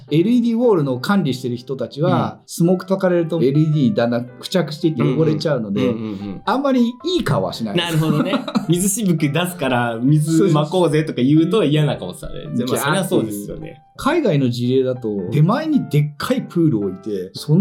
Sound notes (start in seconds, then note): 7.8 laughs